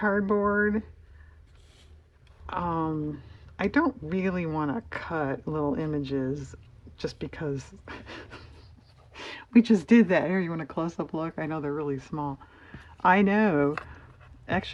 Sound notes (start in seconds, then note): 7.8 laughs